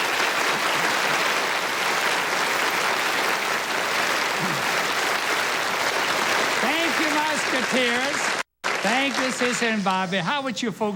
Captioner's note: applause